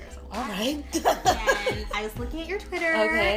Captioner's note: laughing